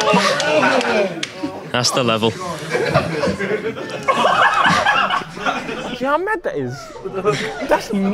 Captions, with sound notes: That's the level. (audience laughing)